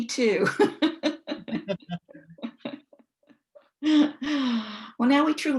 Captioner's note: laughing